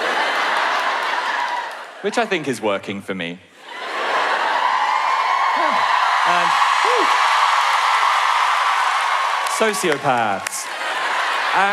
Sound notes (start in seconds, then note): 0.0 audience laughs; 4.3 cheering; 7.5 cheering